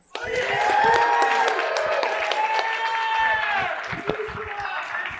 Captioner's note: cheering and applause